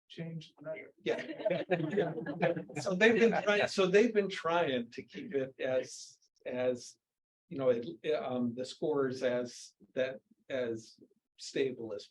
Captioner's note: laughs